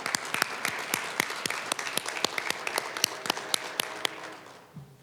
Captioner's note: applause